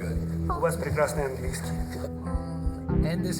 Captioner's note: speaking foreign language